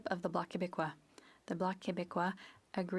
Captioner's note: speaking French